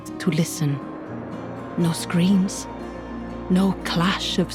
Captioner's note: tense music playing; wind blows